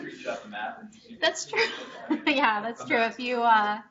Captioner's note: chuckles